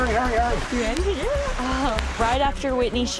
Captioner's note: chuckles